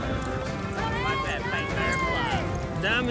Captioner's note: shouting encouragement